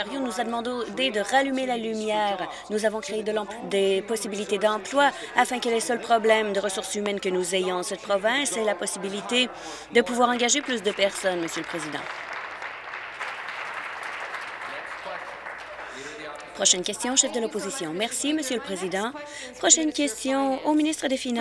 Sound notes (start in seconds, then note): 14.8 applause